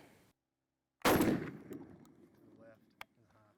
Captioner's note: gunshot